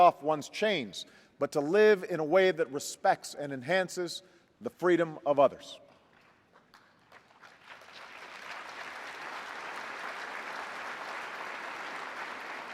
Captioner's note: applause